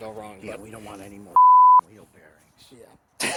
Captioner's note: beep